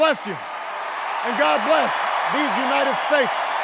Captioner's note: cheers and applause grow